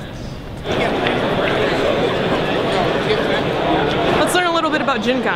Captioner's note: crowd noise